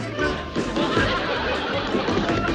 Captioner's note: banging